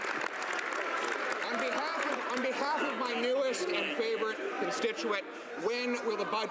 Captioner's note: some Applause